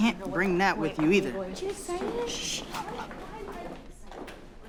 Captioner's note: whispers